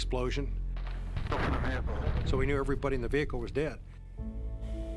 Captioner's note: gunfire and explosion